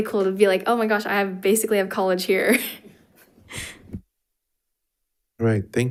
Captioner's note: chuckles